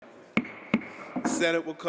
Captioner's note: gavel bangs